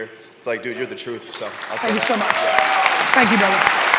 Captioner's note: audience applause